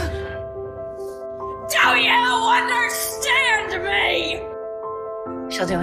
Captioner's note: shouting; voiceover